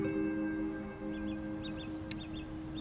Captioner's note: birdsong